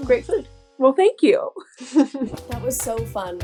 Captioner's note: both laugh